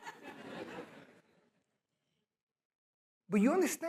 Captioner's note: laughter